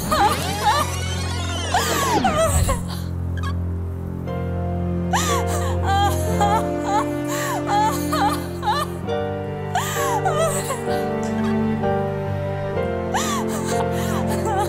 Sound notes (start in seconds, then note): 0.2 dramatic music; 5.1 sobbing